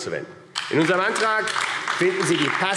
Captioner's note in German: Beifall AfD